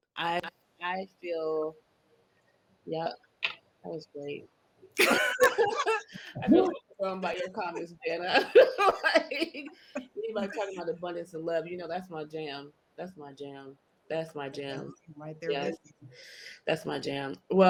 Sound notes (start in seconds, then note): 5.0 participants laugh; 8.1 laugh